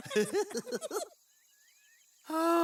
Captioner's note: sighs